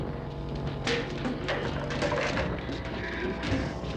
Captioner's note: wood clattering